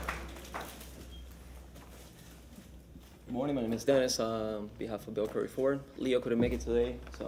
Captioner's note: applause